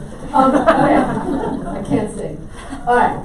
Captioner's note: audience laughs